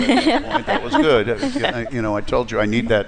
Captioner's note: laughter